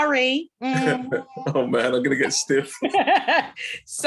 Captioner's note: laughing